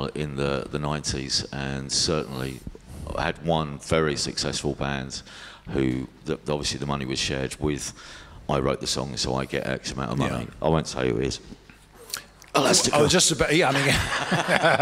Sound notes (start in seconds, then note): 12.3 whispers